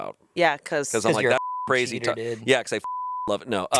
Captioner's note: beep